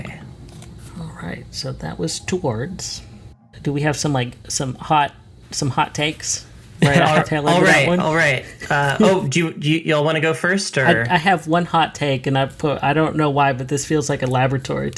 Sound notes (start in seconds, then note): 6.8 laughs